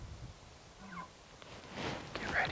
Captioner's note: elk chuckling